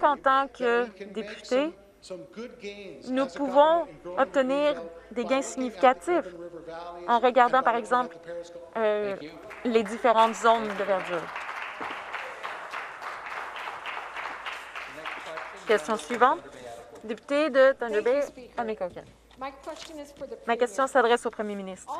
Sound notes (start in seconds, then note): 13.9 some Applause